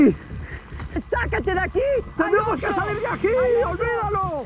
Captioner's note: shouting in spanish